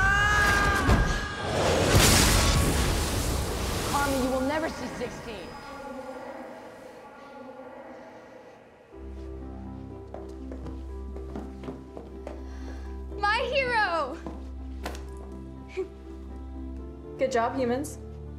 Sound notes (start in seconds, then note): 4.4 echoes